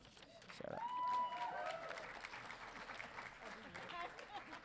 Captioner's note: audience cheering